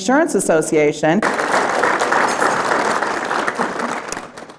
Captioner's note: applause